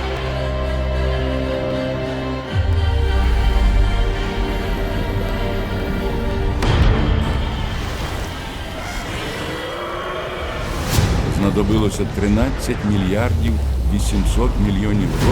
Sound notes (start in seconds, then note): 6.6 thunderclap; 7.4 animals roaring